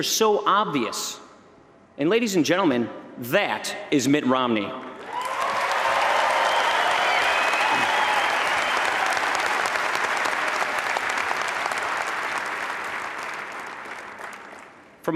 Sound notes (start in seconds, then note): 10.1 applause